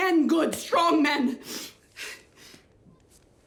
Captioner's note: sniffles